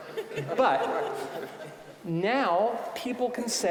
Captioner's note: audience laughing